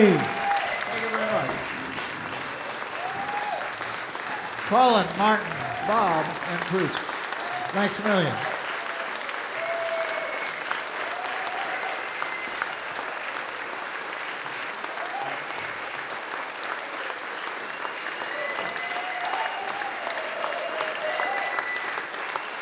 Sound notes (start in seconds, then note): 0.2 audience Applause; 8.6 audience Applause and Cheers